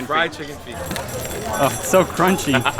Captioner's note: crunchy sound; laughs